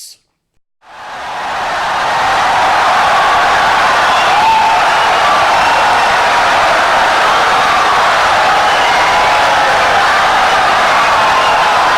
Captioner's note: wild applause and cheering for 17 seconds